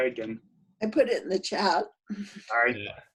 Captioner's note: laughs